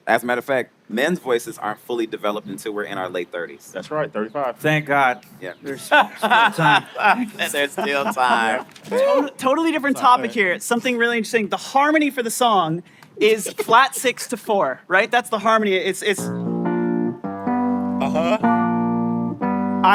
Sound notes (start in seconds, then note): 5.6 laughing; 18.8 piano